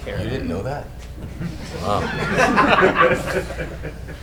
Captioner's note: group laughing